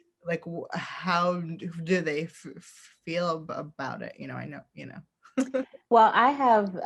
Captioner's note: laughs